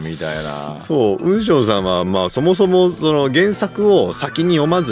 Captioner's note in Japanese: 鼻息